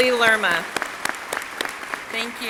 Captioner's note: crowd cheering and applauding